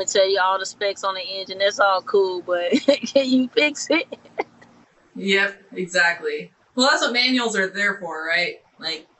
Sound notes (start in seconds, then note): 4.4 laughing